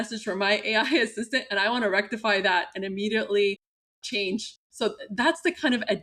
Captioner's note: laughter